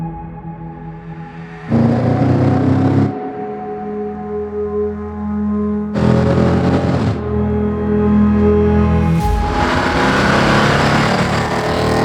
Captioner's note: motor grinding sounds